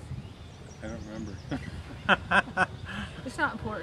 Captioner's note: chuckles